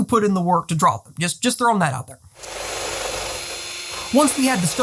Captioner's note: drill whirring